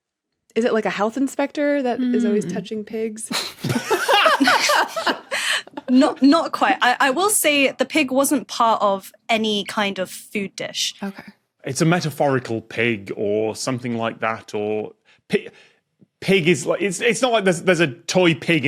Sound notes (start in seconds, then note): 3.3 group blurts laughter